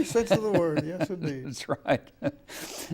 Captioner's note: laughing